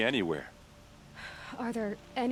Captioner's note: sigh